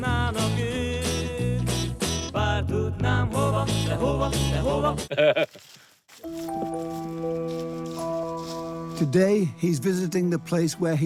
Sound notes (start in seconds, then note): 0.0 60s Hungarian rock 'n' roll music; 5.0 laughs; 6.3 suspenseful music